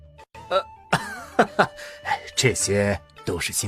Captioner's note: mocking laugh